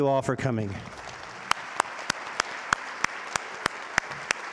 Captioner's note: audience applauding